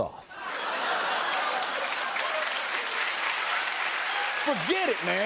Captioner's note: laughter and applause